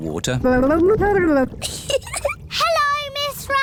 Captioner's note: gurgles; giggles